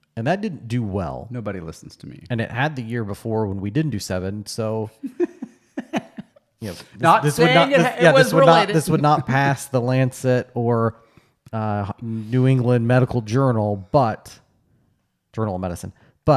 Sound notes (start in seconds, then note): 5.0 laughs